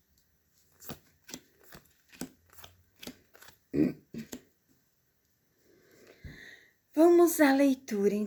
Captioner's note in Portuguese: limpando a garganta